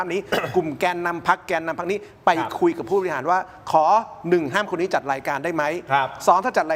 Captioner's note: clears throat